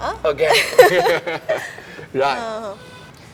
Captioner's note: laugh